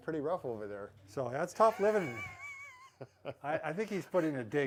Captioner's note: laugh